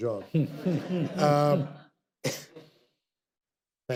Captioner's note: audience laughter